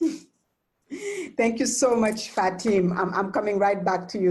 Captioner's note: chuckles